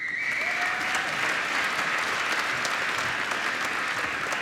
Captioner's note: applause